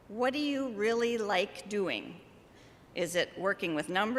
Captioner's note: none